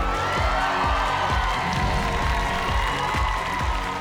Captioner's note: cheers and applause